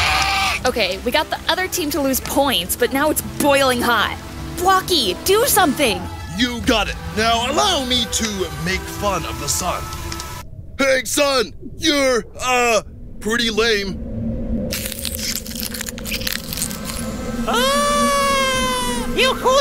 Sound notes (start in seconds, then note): 14.7 freezing noises play as the sun transforms into an ice cube